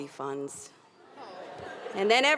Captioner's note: audience laughing